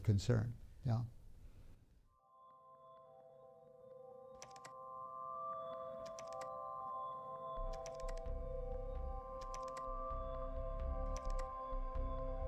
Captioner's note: keyboard clicking